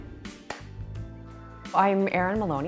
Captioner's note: loud clap